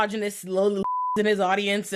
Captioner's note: beep